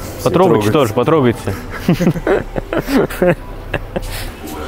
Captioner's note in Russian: смех